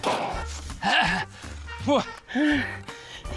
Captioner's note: grunts, pants; breathes heavily